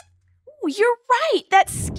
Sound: squeaks squeaking

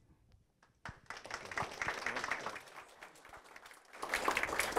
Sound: audience clapping

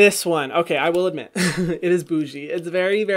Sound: laughs

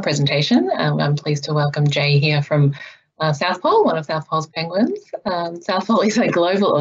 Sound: laughs

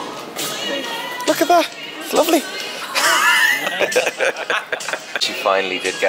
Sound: laughs

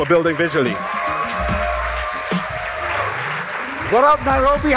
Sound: applause and cheering

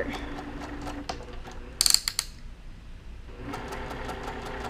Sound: machine whirring

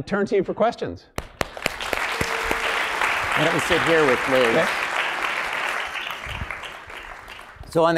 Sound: applause

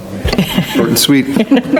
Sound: laughing

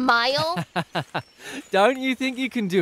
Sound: laughs

